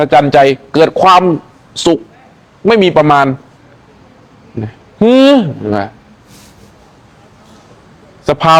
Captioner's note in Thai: เสียงสูดหายใจ